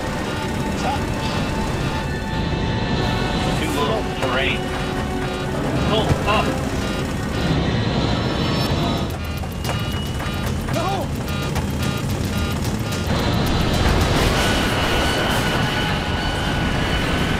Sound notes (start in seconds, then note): 0.3 computer beeps; 3.9 automated Voice; 7.3 computer beeps; 14.5 plane crushes